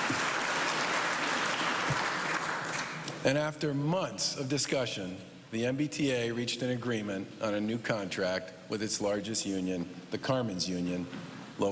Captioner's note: cheers and applause